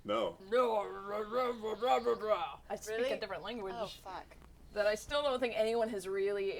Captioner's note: guttural gibberish